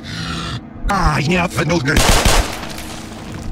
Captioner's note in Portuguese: Demoman infectado falando